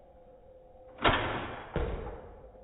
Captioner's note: bang